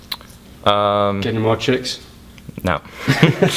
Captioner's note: voiceover; laughing